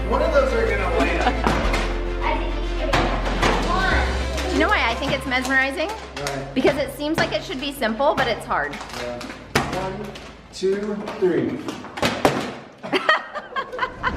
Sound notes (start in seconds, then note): 0.8 laughing happily; 2.4 group chatter; 11.5 water bottles falling; 12.8 all laughing